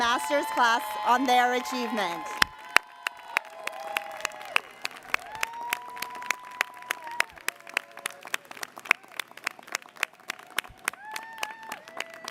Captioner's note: applause